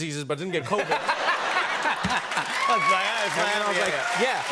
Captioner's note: cheers and applause